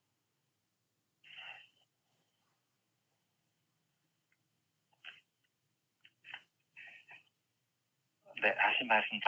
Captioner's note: silence